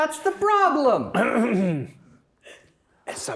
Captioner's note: clears throat